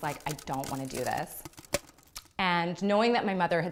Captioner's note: cracking ice